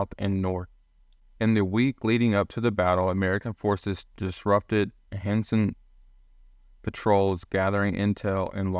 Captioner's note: voiceover